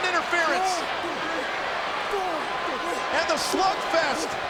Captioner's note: Dean and Cody grunting